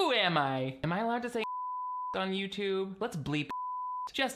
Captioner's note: beep